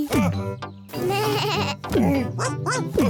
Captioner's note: bleats; barks